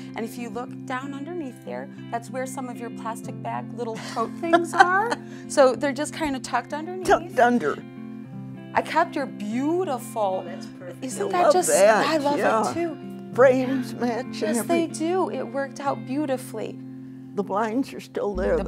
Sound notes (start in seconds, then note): 4.0 laughs